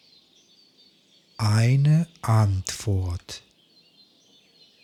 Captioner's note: german